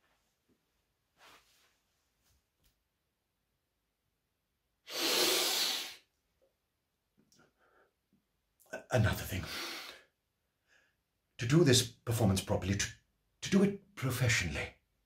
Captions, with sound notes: (sniffs) Another thing. To do this performance properly, to do it professionally,